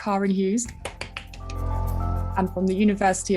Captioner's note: hands softly clapping; upbeat light jazzy music